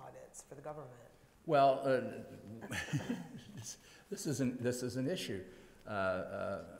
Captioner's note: laughs